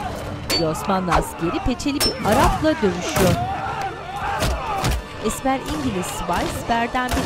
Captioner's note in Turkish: Dövüş sesleri; Silah sesleri